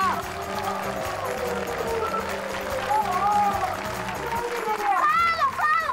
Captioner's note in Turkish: Alkış sesi